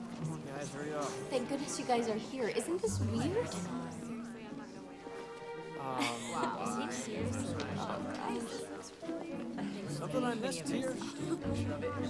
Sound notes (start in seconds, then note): 0.0 Spencer sighs; 7.3 curious orchestral music; 7.3 students murmuring; 11.8 students murmuring